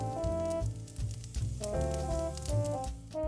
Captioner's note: fire crackling